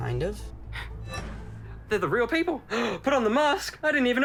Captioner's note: gasps